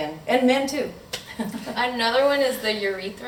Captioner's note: laughing